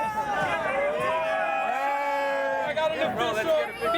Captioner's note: crowd cheering